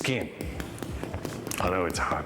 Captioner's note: crispy pork thudding